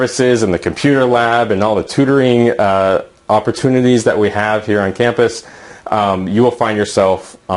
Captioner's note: aahh